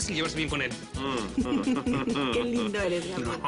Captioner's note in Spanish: Risas